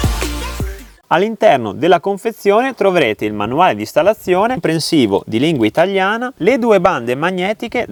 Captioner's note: in Italian